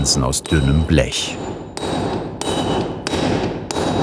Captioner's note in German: Metallische Schläge